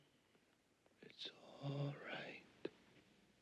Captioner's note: whispering